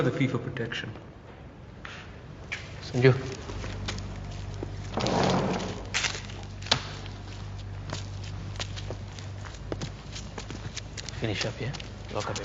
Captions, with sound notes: You know the fee for protection. - Sanju. (scraping) (slaps) Finish up here.